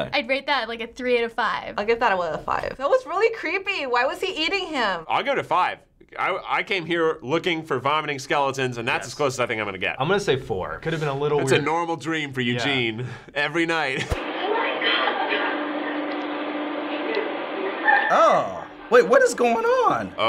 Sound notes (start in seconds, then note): 13.9 laughs